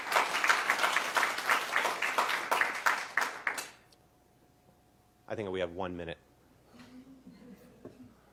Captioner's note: applause